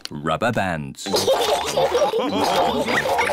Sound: all laugh

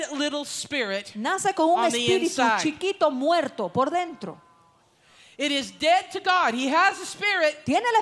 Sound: Spanish

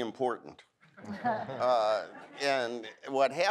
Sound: audience laughs

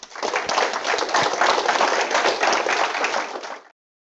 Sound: applause

